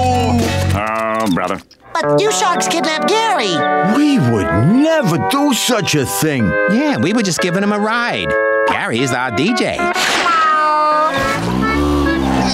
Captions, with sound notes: Oh, brother. But you sharks kidnapped Gary. We would never do such a thing. Yeah, we were just giving him a ride. Gary is our DJ! [meowing]